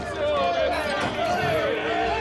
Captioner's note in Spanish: gritos